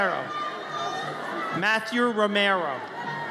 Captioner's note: audience cheers